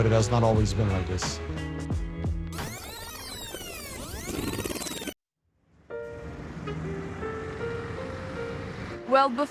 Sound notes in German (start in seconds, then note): 2.5 band wird zurückgespult